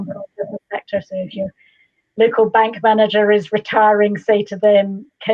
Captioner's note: audio distorts